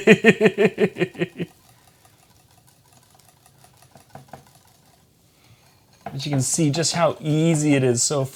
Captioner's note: laughs